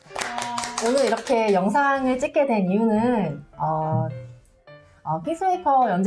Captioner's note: claping